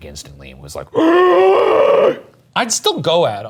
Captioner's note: roars